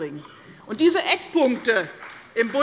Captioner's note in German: Beifall bei der CDU und dem BÜNDNIS 90/DIE GRÜNEN